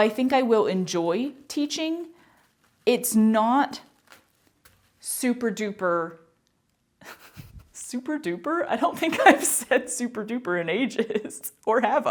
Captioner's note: laughter